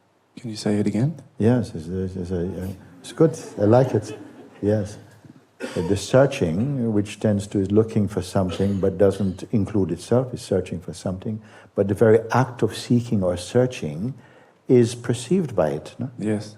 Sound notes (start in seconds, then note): 3.0 laughter